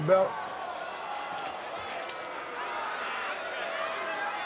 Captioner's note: audience cheering